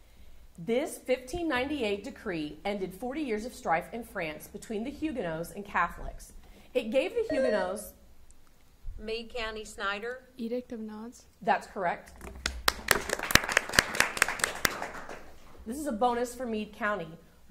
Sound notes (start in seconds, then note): 7.7 buzzer sounding; 12.4 audience applauding